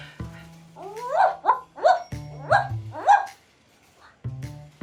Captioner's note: barking